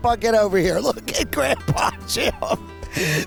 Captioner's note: laughing